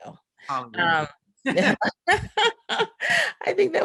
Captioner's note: all laughing